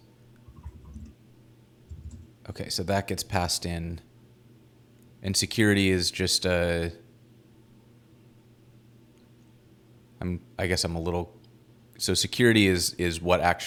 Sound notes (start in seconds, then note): none